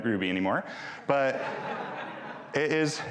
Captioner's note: audience laughing